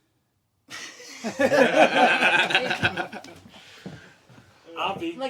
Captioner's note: everyone laughing